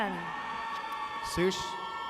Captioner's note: audience cheers